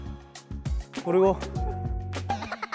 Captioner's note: nostrils flaring